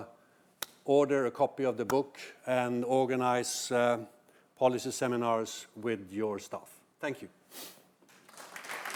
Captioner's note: applause